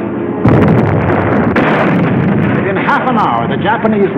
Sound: cannon firing

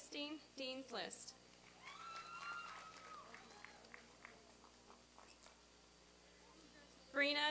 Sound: applause and cheering

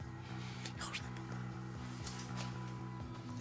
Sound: whispering

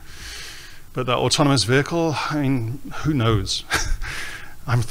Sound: chuckles

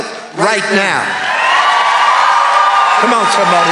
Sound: congregation cheering

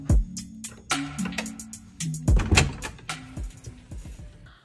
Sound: door clicking

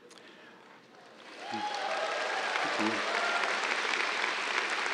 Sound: cheers, applause

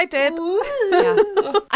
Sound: laughing

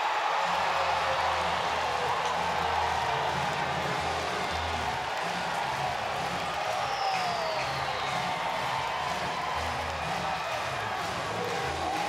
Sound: crowd cheering and clapping

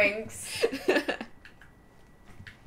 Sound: laughter

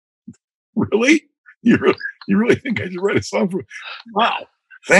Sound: laughter

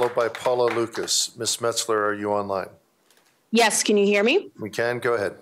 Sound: applause

